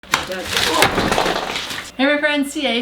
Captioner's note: crash!